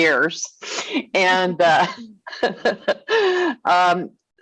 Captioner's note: laughing